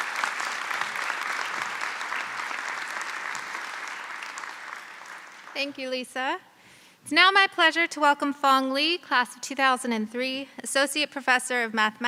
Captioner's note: applause